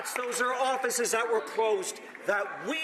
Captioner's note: some Applause